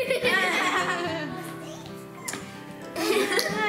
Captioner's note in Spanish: risa